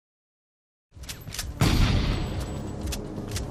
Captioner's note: shotgun blast